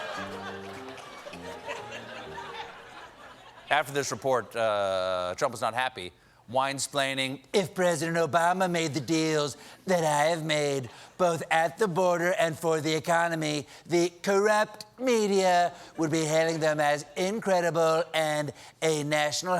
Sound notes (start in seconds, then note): 0.0 laughter; 0.0 piano riff